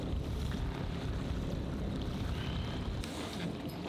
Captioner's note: waves crashing